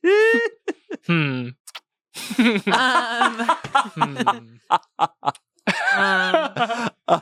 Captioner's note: everyone laughs; laughs; everyone laughs